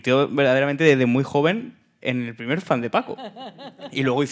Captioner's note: speaking in Spanish; laughing